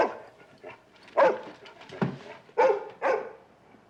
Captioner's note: barking continues